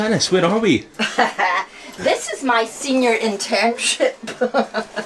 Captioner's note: laughs; Janice chuckles